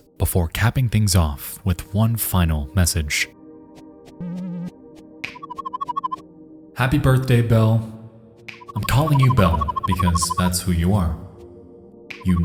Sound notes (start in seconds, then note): 4.2 warbling sound